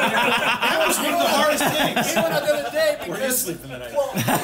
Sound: laughter

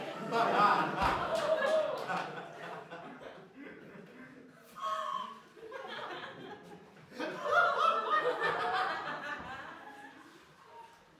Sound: laughter

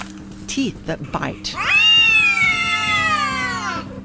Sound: cats scream

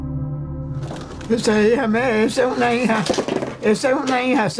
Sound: Spanish

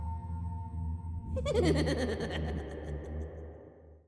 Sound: ghoul laughing

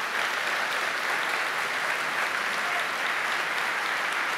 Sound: applause

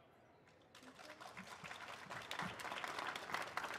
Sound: applause

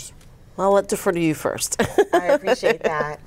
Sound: laughing

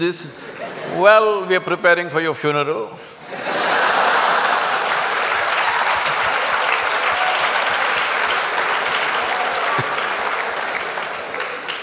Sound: laughter & Applauds

